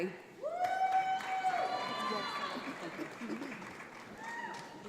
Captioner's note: audience applauds